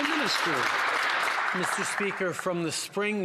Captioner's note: some Applause